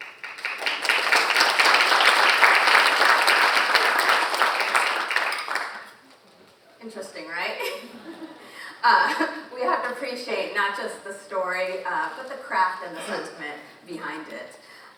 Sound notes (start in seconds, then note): 0.0 audience applauding; 7.6 all chuckling